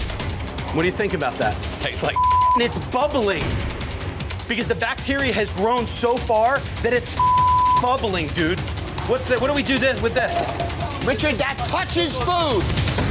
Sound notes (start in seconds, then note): 2.1 beep; 7.1 beep; 10.6 bowl clattering